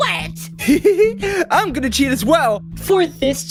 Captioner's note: giggle